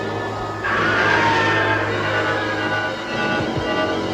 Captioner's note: screaming